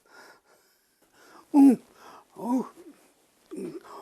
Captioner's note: moans